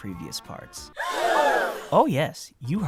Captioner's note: audience gasp